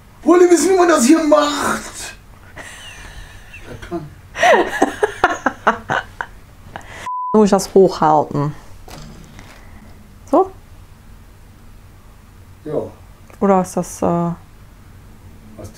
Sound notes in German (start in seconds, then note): 0.2 Aus dem Off; 4.3 lacht; 12.0 Aus dem Off; 15.6 Aus dem Off